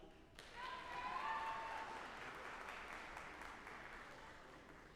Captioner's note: audience applauding